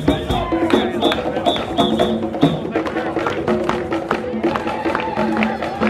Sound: guests clapping in unison

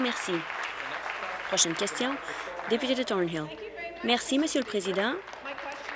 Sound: applause

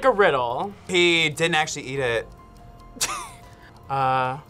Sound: laughs

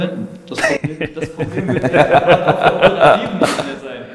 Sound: laughing

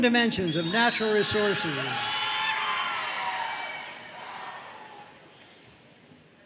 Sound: audience cheering and applauding

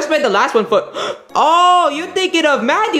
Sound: Luigi gasping

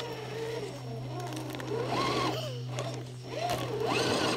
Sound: engine revving

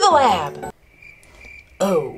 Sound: crickets chirping

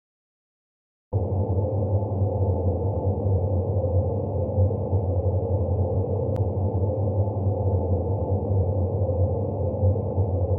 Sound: sound of creepy wind

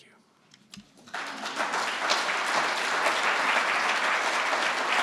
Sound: audience applauding

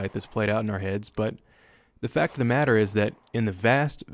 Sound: gunfire

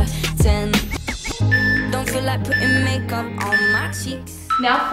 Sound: timer beeping

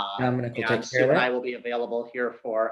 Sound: overlapping chatter

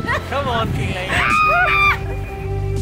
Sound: screaming

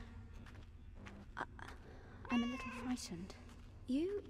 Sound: cat meows

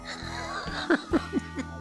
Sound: laughing

